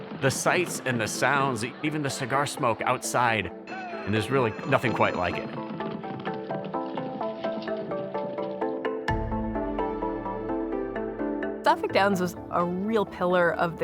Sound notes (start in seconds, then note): 5.2 hooves thumping; 8.5 soft bright music continues